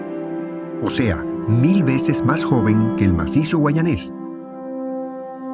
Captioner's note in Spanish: none